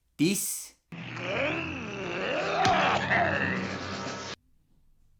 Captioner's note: Gorn hisses, Kirk chops, Gorn cough/wheezes